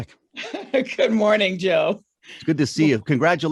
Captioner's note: chuckles